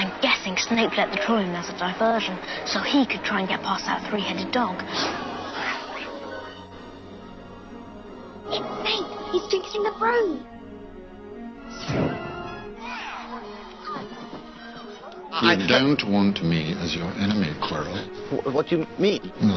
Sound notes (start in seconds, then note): 4.9 gasps